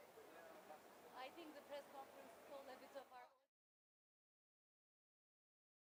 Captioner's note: background chatter